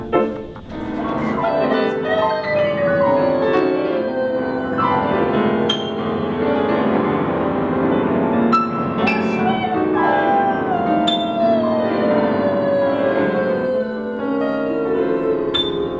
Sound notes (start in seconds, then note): 0.6 vocalizing